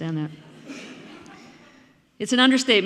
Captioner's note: audience laughing